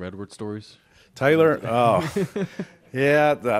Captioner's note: laughs